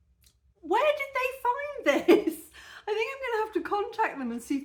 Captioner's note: laughing